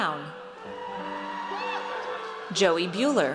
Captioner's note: audience cheers